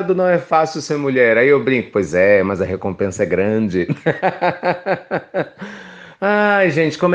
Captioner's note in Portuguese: risos